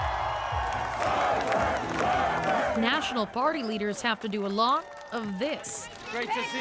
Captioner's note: cheers and Applause